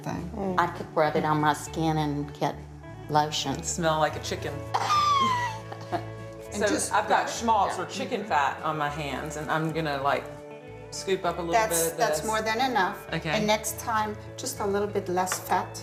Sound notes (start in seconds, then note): 4.7 laughs